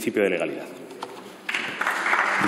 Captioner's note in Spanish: Aplausos